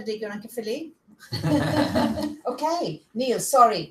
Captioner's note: laughter